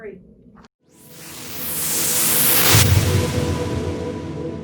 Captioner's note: whooshing